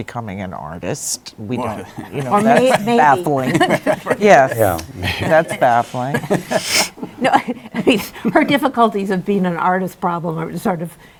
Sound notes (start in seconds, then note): 2.3 laughs; 5.9 laughter